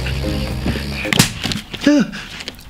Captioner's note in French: bruit de claque